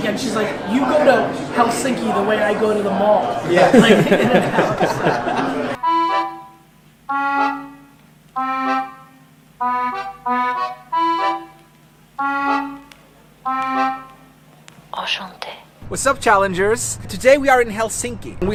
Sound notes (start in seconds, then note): 3.4 laughing; 5.8 accordion music